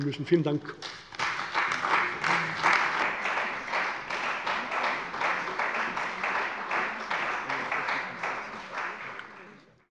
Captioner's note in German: Beifall bei der CDU